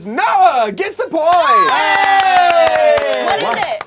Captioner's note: loud cheering